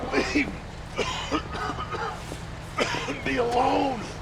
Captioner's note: coughs